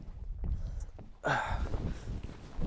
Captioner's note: exhales